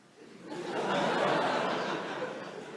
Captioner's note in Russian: за смеется